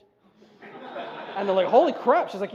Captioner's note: laughter